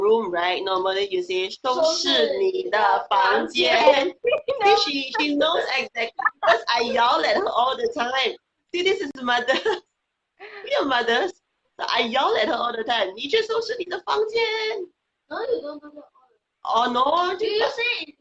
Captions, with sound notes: So to clean your room, right, you normally say. (speaking foreign language) (laughing) She knows it because I yell it all the time. See, this is the mother, we are mothers. I yell at her all the time. (speaking foreign language)